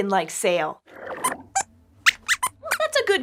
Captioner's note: squeaks squeaks